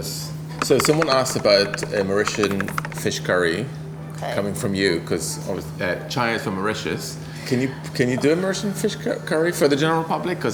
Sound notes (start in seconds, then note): none